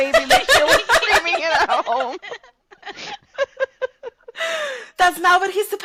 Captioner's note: laughter